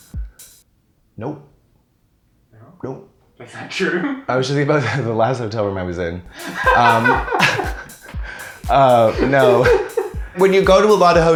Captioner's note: laughter